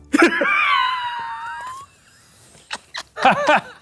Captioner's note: laughing